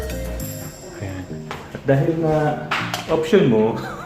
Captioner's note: laugh